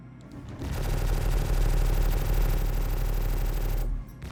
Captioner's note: gun fires